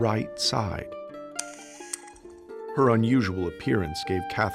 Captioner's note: camera whirring